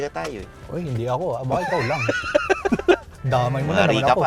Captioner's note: laughs